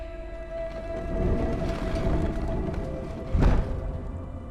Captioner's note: door creaks